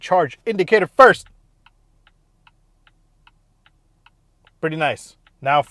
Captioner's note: beeping sound